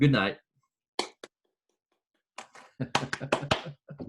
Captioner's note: clapping